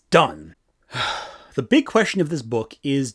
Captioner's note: exhales sharply